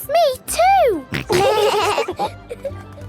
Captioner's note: laughing